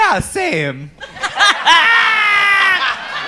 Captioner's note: laughter